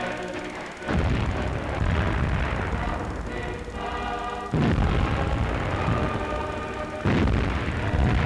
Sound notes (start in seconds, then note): 2.0 bombs exploding